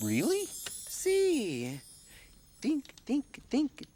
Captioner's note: speaking in foreign language